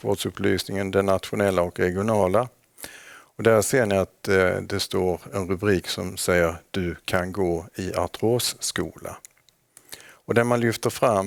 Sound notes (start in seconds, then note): 4.4 in Swedish